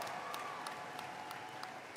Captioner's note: cheering